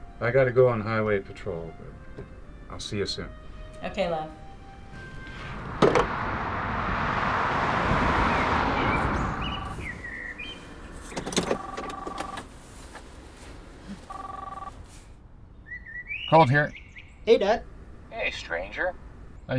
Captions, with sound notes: I gotta go on highway patrol, but I'll see you soon. [gentle music] - Okay, love. [car whirring] [phone ringing] - Colt, here. - Hey, dad. - Hey, stranger.